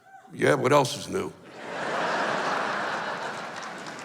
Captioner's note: laughs